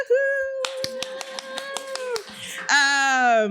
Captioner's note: cheers, applause